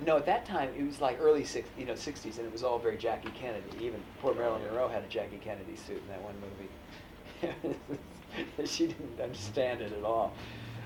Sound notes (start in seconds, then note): 7.2 laughs